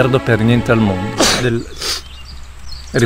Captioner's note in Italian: starnuto